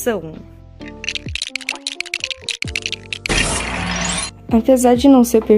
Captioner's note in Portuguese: Sons intensos de construção de lego